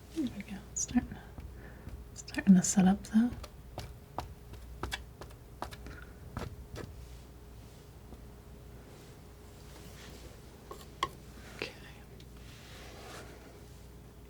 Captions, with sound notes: There we go, startin' to set up though (scratching) (scratching) (scratching) (scratching) Okay (scratching)